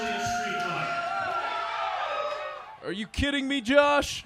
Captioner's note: cheering